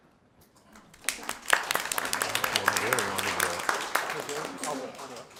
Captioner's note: audience clapping